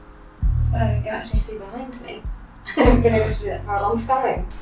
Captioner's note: chuckles